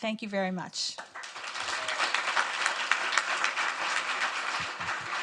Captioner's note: audience applauds